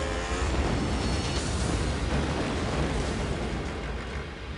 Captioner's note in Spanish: Se oye explosión